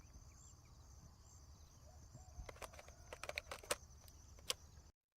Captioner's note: camera snapshots